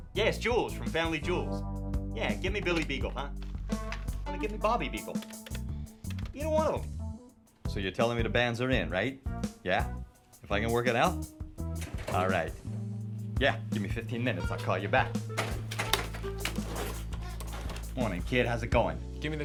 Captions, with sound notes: Yeah, it's Jewels from Family Jewels. Yeah, give me Billy Beagle, huh. Well, then gimme Bobby Beagle? Either one of them. So you're telling me the bands are in, right? Yeah? If I can work it out. All right. Yeah, give me 15 minutes, I'll call you back. (phone clanks) (upbeat groovy music) Morning kid, how's it going?